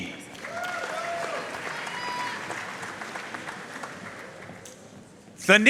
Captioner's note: audience cheering and applauding